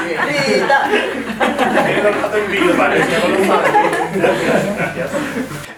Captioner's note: they laugh